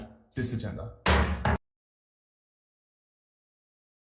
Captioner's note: gavel thudding